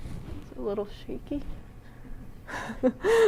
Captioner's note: laughs